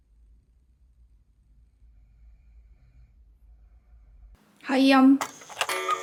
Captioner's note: silent